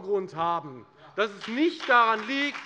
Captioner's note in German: Beifall bei der FDP